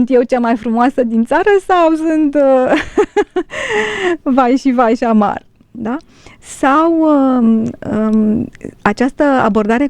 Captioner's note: laughter